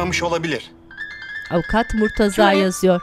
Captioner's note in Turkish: Telefon zili sesi